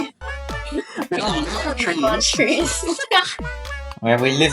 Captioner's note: chattering in the background about tree living